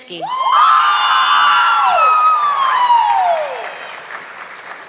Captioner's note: audience clapping